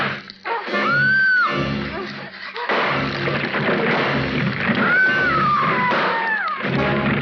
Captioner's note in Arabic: يضرب الفأس; يصرخ